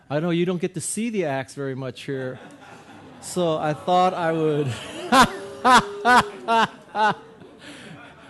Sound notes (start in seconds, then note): 2.2 audience laughing; 4.7 guy laughing